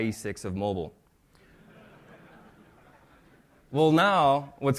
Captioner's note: laughter